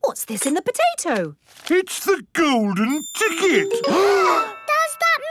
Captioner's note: gasps